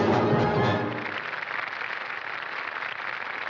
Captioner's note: applause